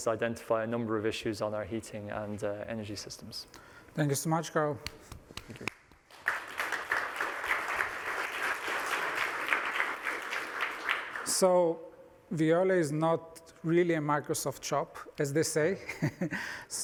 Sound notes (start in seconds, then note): 5.3 applause